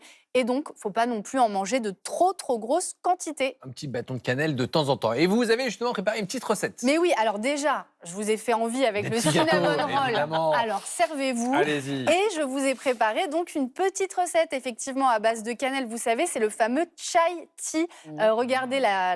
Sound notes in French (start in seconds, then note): 9.0 rires